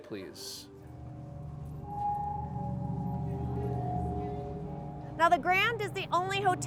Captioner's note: creepy sound effects